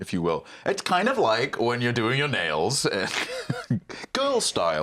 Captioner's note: laughs